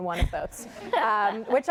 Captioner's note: laughter